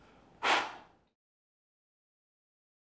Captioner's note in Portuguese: sopro